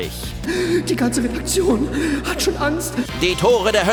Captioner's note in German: angsterfüllt